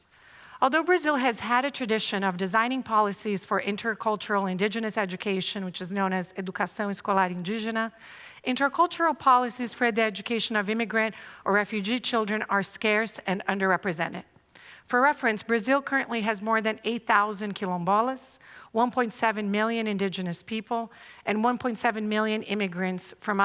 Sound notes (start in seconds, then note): 6.7 non-english speech